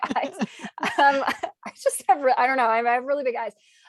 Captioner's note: laughs